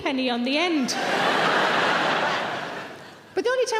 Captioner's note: audience laughing